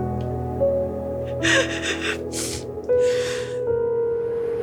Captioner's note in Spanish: Sollozos